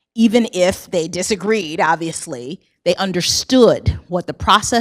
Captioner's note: none